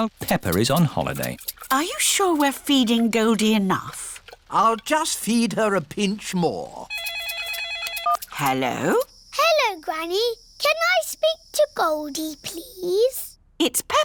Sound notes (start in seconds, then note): 6.9 phone rings